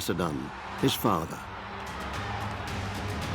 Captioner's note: roar of soldiers